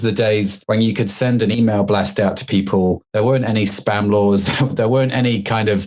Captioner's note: laughs